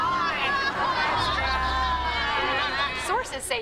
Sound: crying

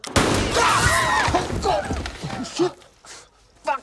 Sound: gunshot; panicked screaming

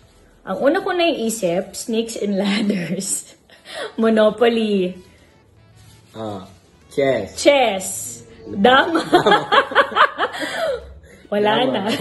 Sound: hahahahahahaha!

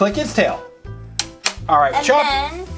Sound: toy clicking

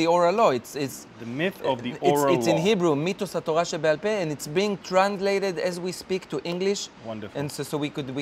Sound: speaking Hebrew

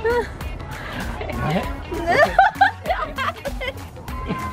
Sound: laughing

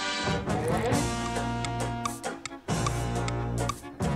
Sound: ticking

